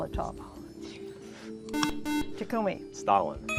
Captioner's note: buzzer